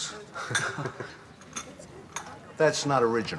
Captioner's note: chuckling